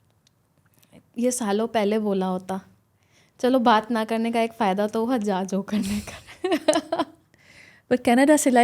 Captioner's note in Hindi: हंसी